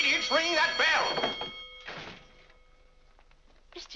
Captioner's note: ringing stops